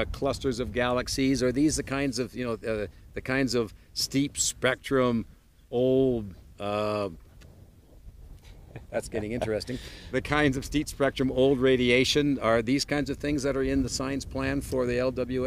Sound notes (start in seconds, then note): 8.5 laughs